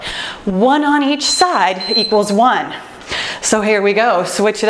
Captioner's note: timer beeps